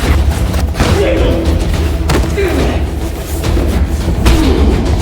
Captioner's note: Chris groans; fist thuds; men grunting; Chris groaning; fist thudding